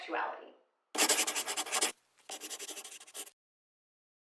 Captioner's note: scribbling